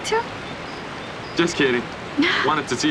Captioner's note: chuckles